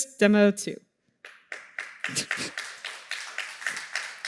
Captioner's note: applause